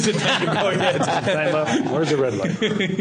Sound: laughter

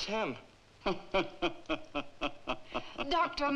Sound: Zabor laughing

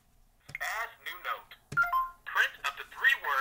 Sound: voiceover

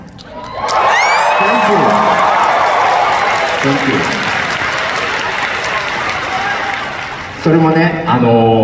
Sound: applause

